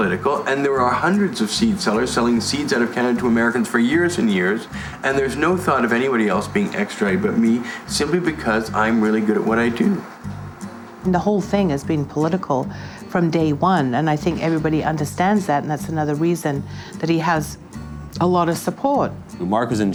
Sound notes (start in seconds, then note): none